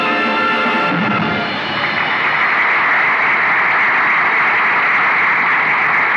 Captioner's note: Crowd Applauding